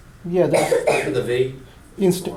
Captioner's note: voiceover